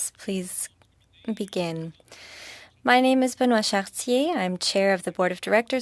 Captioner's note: speaking French